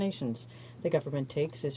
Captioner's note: speaking French